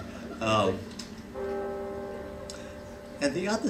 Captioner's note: bell ringing